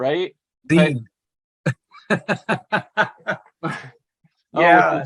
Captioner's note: laughter